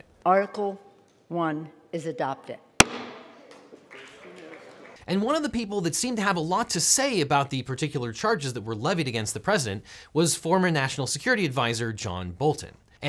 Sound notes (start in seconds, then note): 2.8 gavel thumping; 3.4 senators clapping